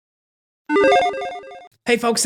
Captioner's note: logo beeping